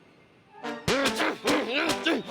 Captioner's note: shouting